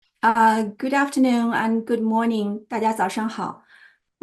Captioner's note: Mandarin